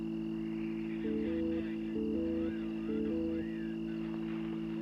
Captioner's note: c.b. radio